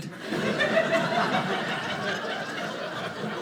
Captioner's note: audience laughing